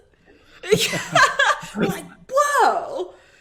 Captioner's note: laughing